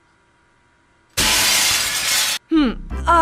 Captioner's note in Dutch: brekend glas